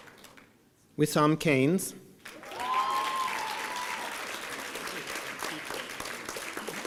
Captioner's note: applause